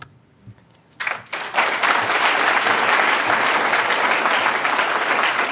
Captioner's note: applause